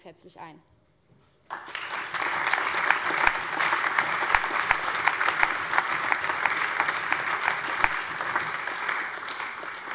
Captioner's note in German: Allgemeiner Beifall